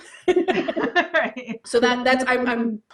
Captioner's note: laughs